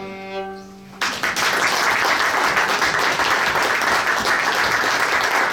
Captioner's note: audience applauds